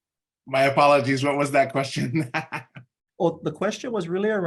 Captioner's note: laughing